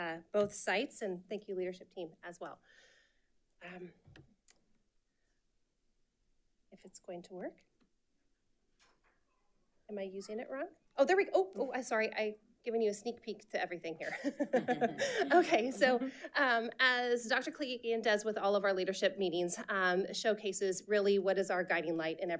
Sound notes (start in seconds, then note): 14.0 chuckling